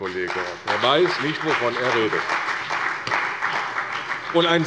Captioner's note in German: Beifall bei der CDU und dem BÜNDNIS 90/DIE GRÜNEN